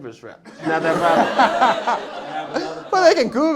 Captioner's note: laughter